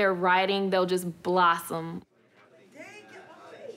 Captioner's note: students chatter